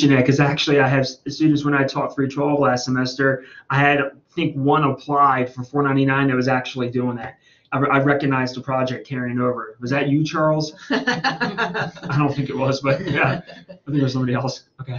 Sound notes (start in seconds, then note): 9.5 laughs